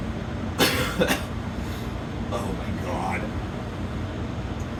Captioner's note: coughs